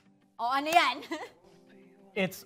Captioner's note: claps